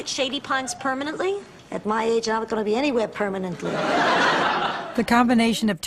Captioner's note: laughs